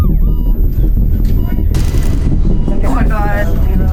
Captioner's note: intense music; machine beeping